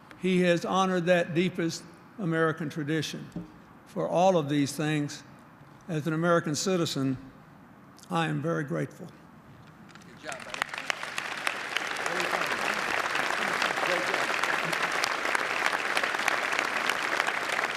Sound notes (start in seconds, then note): 11.9 applause